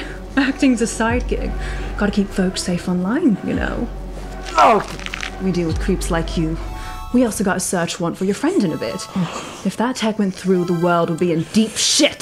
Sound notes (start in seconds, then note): 4.4 bone crunches